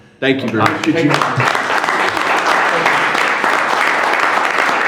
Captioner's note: audience applauding